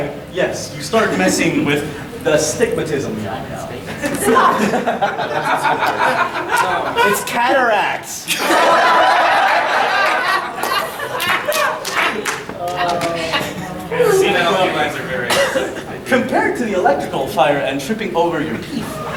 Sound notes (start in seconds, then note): 0.0 audience laughing; 3.9 audience laughing